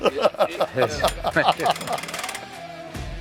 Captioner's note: laughter